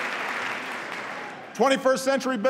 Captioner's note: applause